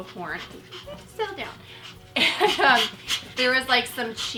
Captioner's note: chuckling